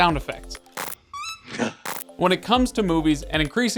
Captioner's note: Harry farting